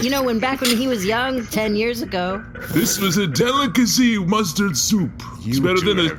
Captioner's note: slurps soup